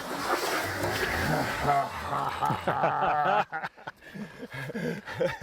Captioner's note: both men laugh